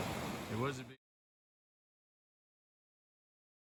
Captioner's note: rushing water